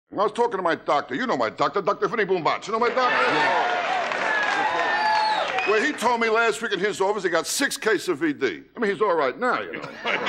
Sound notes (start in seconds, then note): 2.9 audience laughing